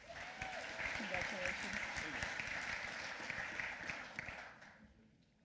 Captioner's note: applause